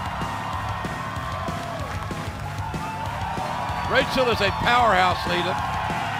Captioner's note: cheers and applause